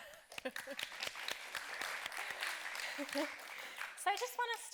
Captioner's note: audience clapping